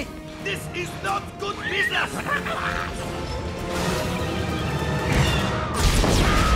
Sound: screaming

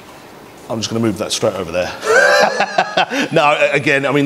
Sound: laughs

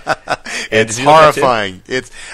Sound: laughs

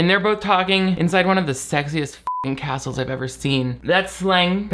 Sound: beep

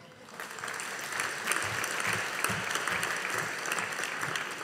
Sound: audience applauding

